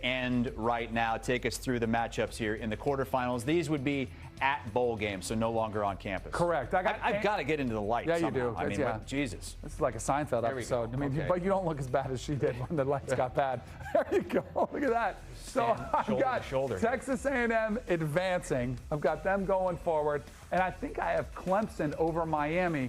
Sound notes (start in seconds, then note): 15.6 laughter